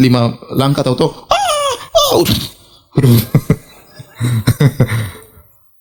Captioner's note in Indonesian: tertawa